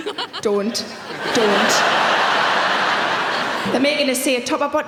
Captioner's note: audience laughing